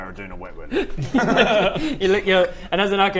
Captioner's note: laughs